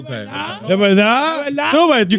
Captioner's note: speaking In Foreign Language